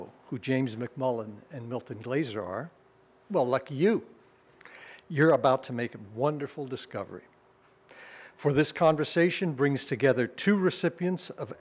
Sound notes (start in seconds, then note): none